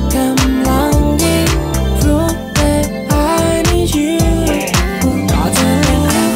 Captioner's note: ooh, ooh